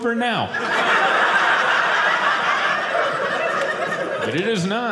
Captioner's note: audience laughing